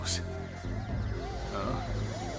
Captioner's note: sirens wail